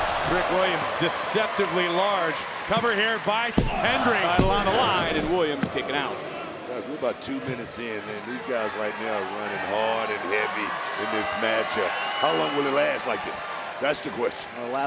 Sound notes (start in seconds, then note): 3.8 hand slaps